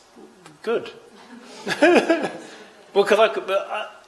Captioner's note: laughter